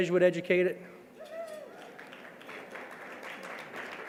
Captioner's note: clapping